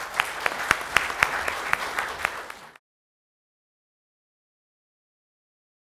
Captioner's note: clapping